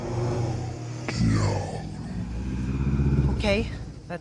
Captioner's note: deep, sinister voice